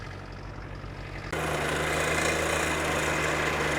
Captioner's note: engine rumbling